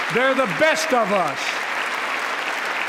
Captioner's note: applause